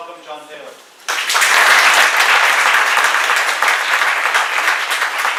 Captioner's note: applause